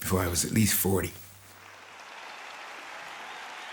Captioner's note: applause and cheering